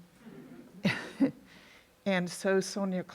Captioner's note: audience laugh